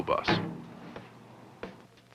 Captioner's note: clunk